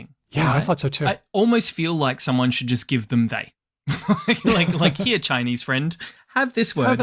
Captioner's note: laughs